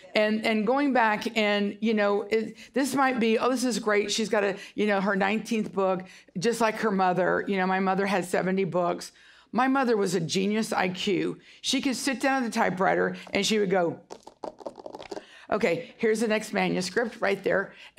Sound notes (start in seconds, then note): 14.0 fingers tapping